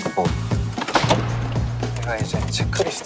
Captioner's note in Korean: 문 잠김